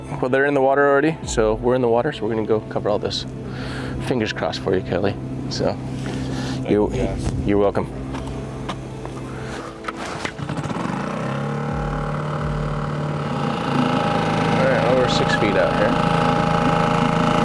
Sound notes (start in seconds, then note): 10.7 boat engine revving